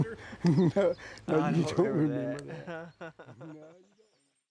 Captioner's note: laughter